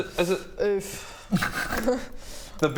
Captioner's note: self-pitying laugh